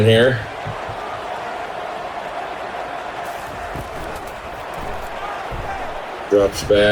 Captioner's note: crowd Noises